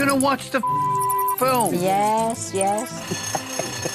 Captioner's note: bell rings